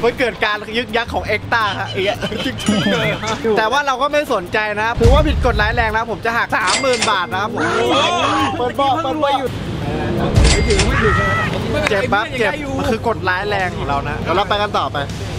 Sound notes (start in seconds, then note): 1.5 chuckles